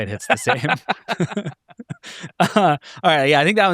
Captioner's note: all chuckling